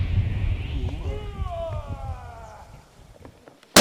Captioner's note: drivers yelling